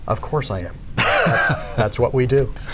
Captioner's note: laughing